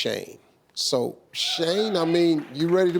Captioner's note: audience cheering